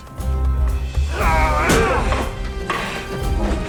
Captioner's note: grunting